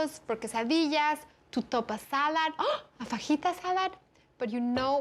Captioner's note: gasps